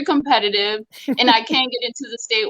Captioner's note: laughs